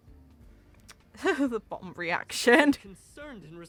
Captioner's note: laughs